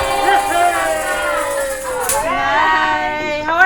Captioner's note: people cheering